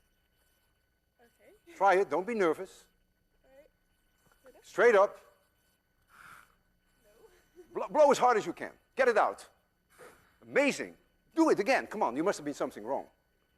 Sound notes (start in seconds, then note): 5.8 blows; 9.8 blows